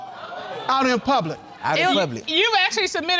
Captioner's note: audience gasping